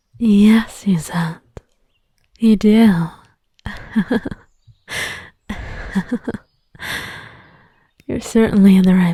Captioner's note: laughs incredulously